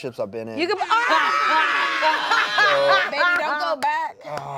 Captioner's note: screams